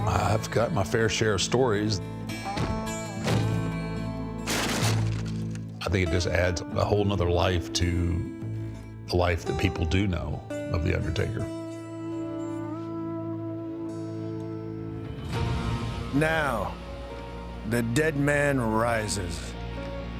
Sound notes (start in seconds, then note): 2.7 door bangs; 4.4 door splinters